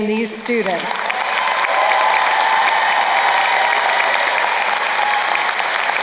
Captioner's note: crowd cheering and applauding